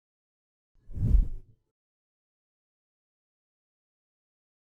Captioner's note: air whooshing